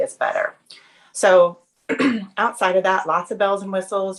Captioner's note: throat clearing